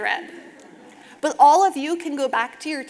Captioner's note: audience laughing